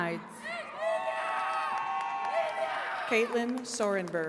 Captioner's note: attendees cheering